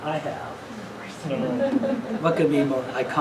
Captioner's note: laughng